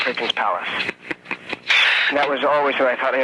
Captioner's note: man chuckling